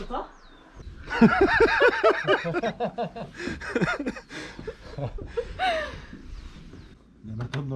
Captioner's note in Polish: śmiech